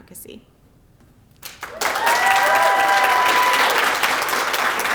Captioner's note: applause